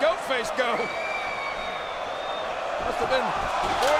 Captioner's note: crowd cheering